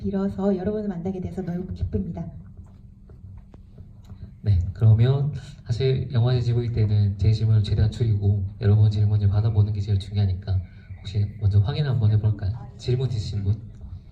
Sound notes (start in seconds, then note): 4.7 speaks in foreign language